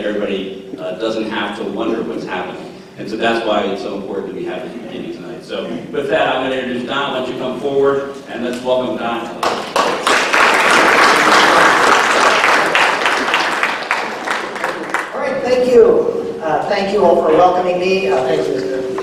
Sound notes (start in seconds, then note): 9.4 applause